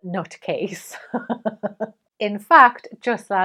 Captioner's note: laughs